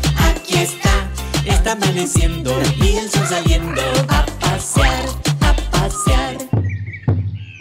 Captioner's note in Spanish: Sonido de loro; Sonido de bombo; Sonido de chancho